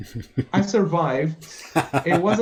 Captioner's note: laughter